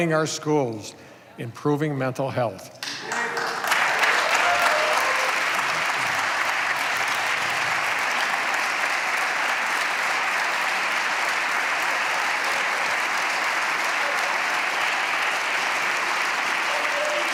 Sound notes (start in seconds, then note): 6.2 applause